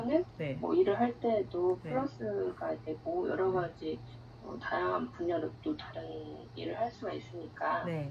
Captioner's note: speaking English